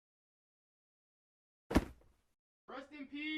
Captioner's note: thud